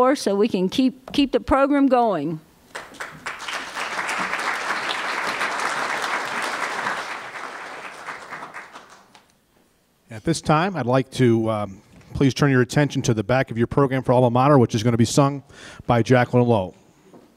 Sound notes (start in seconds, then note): 2.7 applause